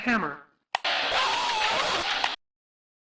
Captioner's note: buzzing, screaming